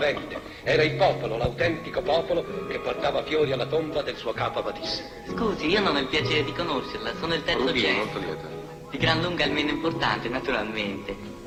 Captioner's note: foreign language 00:41:37.087- 00:42:12.026